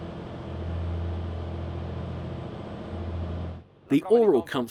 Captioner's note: boat humming